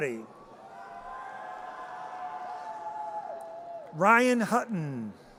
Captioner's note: audience cheers